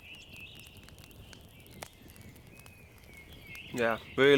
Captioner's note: birds chirping